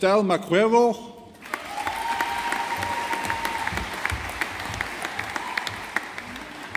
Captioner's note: audience applauding